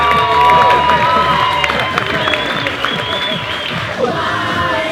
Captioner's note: crowd Cheers